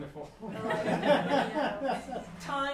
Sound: laughter

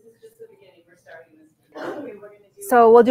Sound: speaking faintly

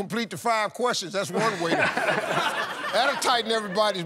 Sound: laughter

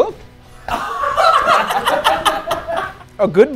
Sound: laughing

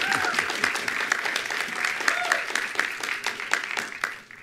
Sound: attendees applauding

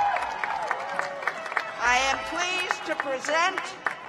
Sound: cheers and applause

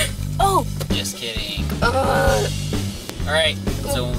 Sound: groan

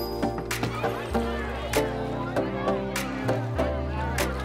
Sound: people chattering

